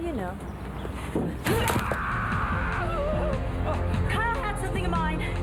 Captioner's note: Phil screams